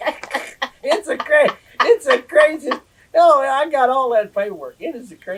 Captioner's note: laughter